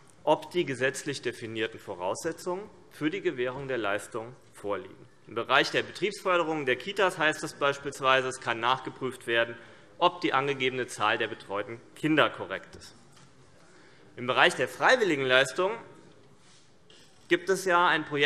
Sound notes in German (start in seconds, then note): none